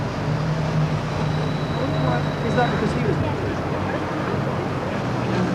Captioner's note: group chattering incoherently